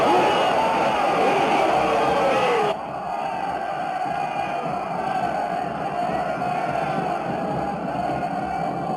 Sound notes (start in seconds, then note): 1.1 army shouting